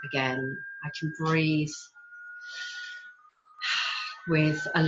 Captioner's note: exhales